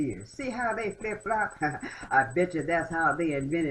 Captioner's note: laughter